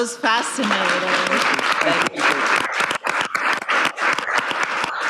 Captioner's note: audience applauding